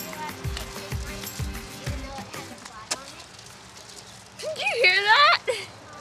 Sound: boots squishing into mud

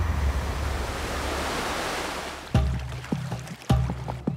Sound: waves crashing

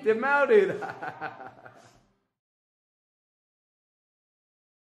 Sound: laughing

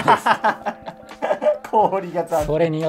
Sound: laughing

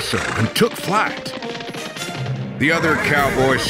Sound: horse hooves galloping

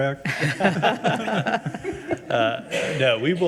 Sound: people chuckle

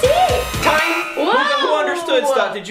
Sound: buzzer rings

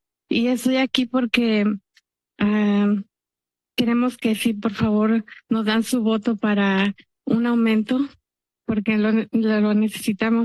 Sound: speaking in Spanish

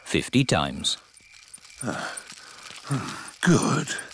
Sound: panting

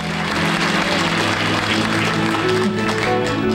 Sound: audience clapping

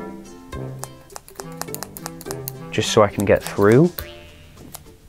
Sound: scissors snip quickly

